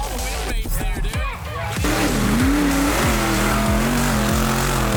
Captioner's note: engine revving